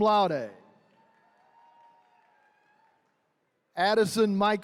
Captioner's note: attendees cheering